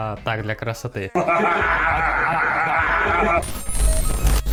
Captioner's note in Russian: смеётся по-кадыровски